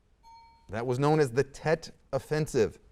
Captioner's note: ding